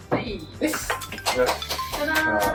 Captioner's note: applause